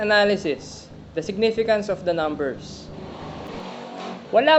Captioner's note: scooter speeds